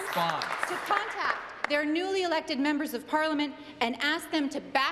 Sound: applause

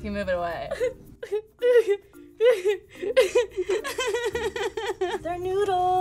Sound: sobbing

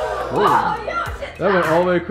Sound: ball clacks; disappointed crowd

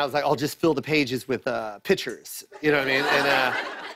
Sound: laughter

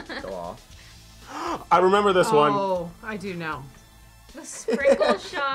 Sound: gasps

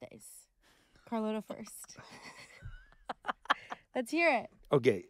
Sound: laughing

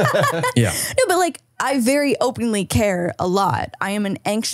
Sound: laughs

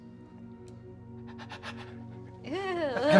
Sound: whimpers

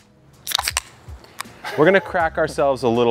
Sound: cans opening

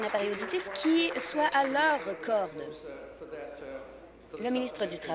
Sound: applause

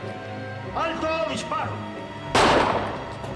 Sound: shooting

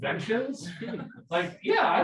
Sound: people laughing

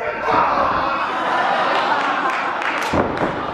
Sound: laughs

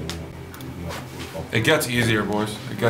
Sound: mouse clicks

